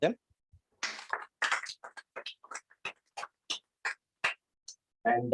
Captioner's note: applause